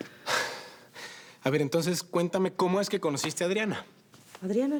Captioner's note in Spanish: exhala